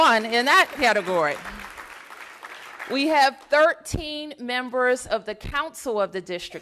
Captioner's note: applause